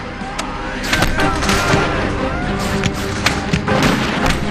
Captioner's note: soldiers shout; guns fire